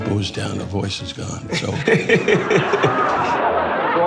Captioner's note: laughing